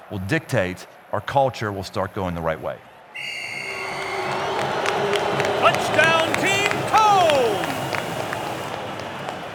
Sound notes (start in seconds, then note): 3.1 whistle